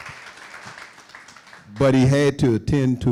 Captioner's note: applause